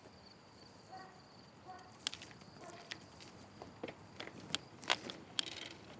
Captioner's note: dog barks in the distance